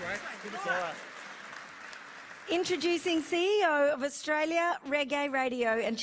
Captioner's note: applause